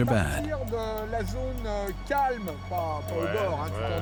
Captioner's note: man speaking French